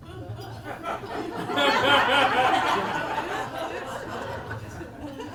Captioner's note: audience laughing